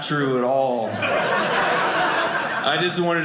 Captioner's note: audience laughing